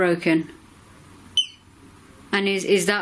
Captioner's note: beep